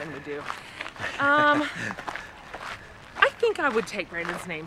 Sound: laughing

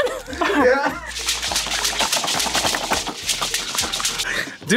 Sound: laughs; toys squelching

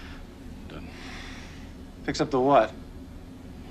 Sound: exhales sharply

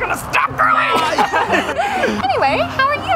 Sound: laughing

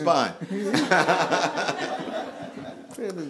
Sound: laughing

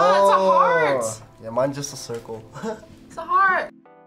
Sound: laughs

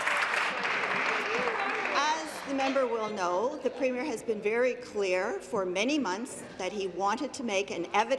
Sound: applause

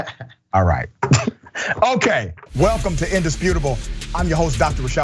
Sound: laugh

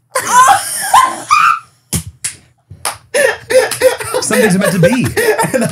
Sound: cackling

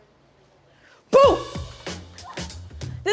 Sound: yells softly

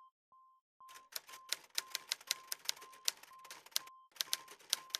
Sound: typewriter keys clicking

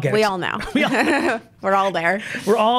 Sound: laughs

